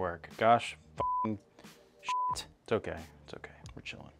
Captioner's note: beep